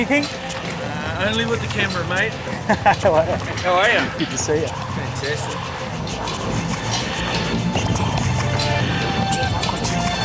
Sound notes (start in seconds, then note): 2.4 chuckling; 7.4 electronic music playing